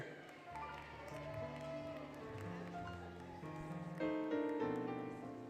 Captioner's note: applause, Cheering, Music